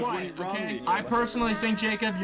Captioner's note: shouting